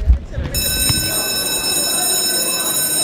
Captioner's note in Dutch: schoolbel